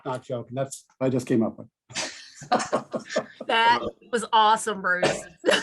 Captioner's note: laughs